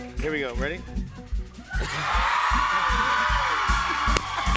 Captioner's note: cheers and applause